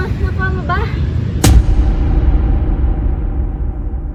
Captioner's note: boom